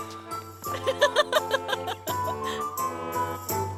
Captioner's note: sighing; laughing